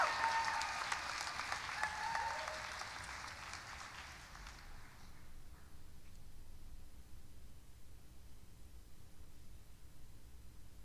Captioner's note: applause and cheering continue